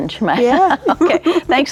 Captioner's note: both laughing